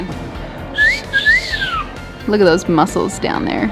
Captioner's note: whistling